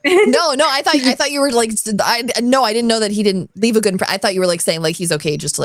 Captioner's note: stammers